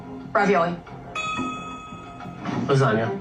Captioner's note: bell dings